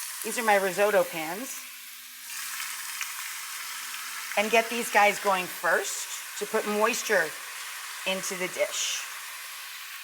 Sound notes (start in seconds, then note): 1.4 food frying